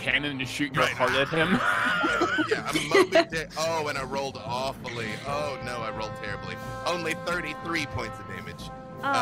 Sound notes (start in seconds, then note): 0.9 all laugh